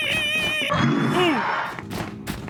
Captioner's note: Dream Eater screaches